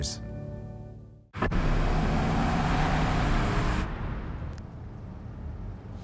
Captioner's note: SFX: Engine sound